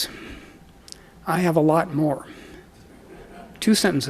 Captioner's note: audience chuckles